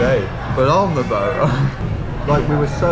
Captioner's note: laughs